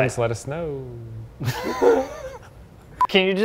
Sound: both laugh

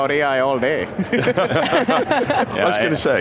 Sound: all laughing

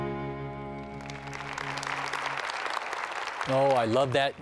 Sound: applause

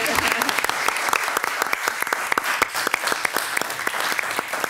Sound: attendees applaud

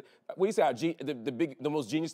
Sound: stammers

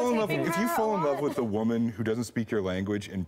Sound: laughter

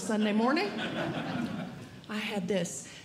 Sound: audience Laughing

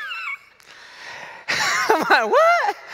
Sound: laughs

